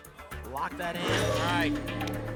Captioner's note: lock sound